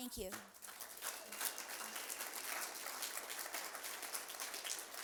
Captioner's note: applause